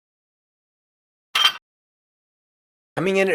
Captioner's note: metallic clank